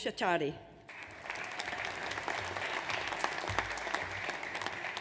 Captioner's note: audience applauds